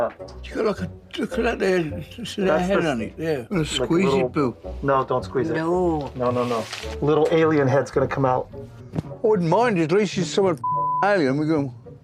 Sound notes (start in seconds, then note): none